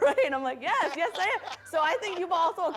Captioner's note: laughs